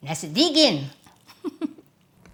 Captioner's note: chuckles